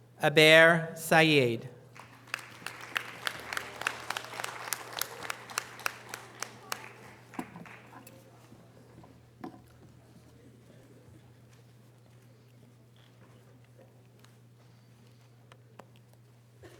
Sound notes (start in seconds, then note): 1.9 audience applause